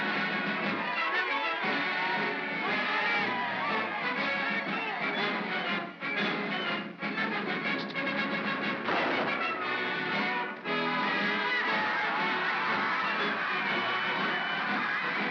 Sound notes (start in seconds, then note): 0.0 mob cheers; 0.0 triumphant music; 8.8 big bang; 10.8 triumphant music & laughter